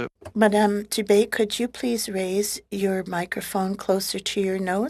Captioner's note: speaking French